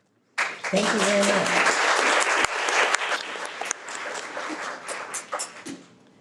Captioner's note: audience clapping